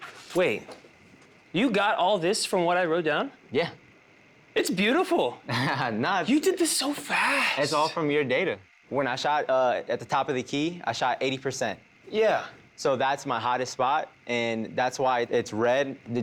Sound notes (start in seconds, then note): 5.5 laughs